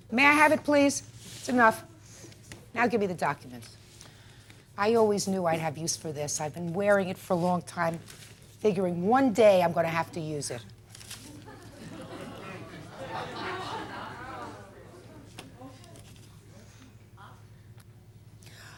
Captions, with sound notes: May I have it, please? It's enough. Now, gimme the documents. I always knew I'd have use for this. I've been wearing it for a long time, figuring one day I'm gonna have to use it. (scattered laughter in courtroom)